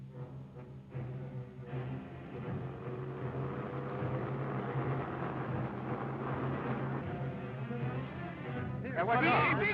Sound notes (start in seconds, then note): 2.7 car engine revving